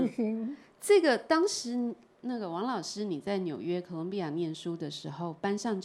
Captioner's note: Mandarin